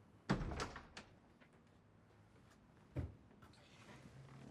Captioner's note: door opening